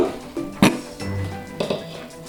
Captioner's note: sniggers